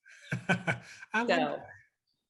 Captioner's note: laughing